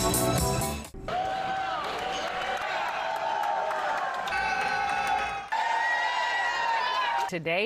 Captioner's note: crowd cheers